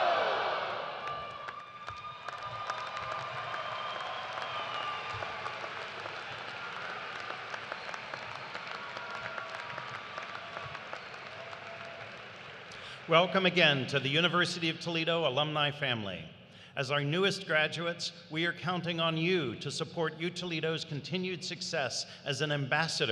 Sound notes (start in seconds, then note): 5.7 cheers and applause